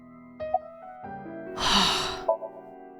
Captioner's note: exhales